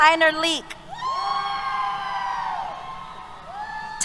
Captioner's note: cheers